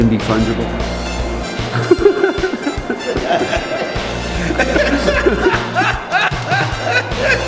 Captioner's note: laughter